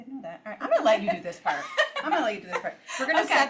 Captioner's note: laughs